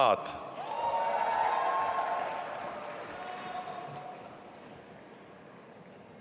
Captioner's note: audience applauding and cheering